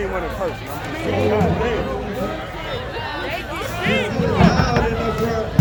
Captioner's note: protesters demonstrating